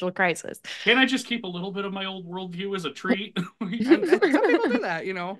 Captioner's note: laughs